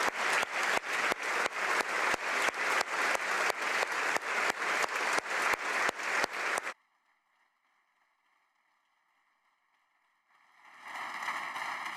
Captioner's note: applause